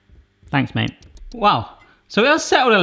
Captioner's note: watch ticking